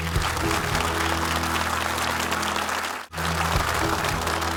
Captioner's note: audience applauding